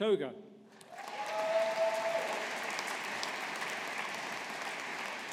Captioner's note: audience applauding